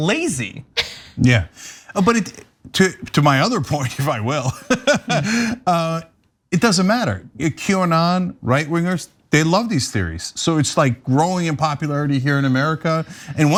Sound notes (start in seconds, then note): 4.6 laugh